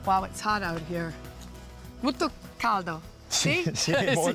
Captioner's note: speaks Italian